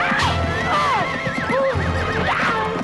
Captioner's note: mother shouting; horse neighs